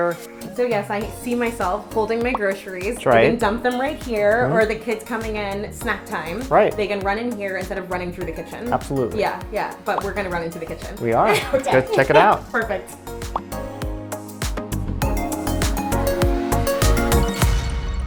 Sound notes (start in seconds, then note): 11.1 laughs; 13.2 upbeat music